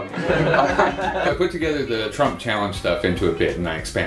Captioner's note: laughter